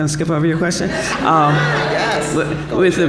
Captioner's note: laughter